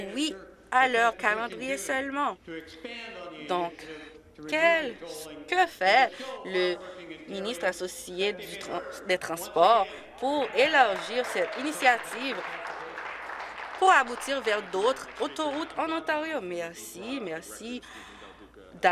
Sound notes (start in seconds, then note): 15.0 applause